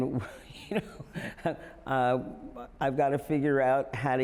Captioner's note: chuckles